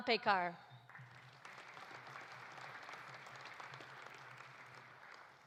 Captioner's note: audience applauding